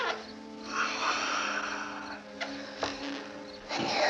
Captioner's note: sighs